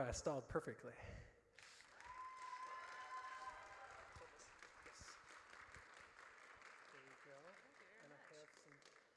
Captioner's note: audience cheers